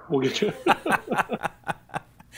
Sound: laughter

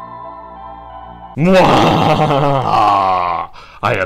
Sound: sinister Music; evil Laughter

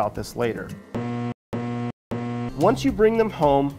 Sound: buzzer beeping

